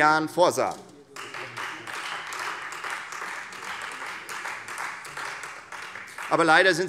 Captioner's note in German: Beifall Freie Demokraten